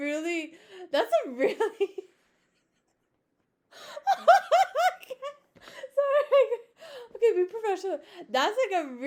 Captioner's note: laughing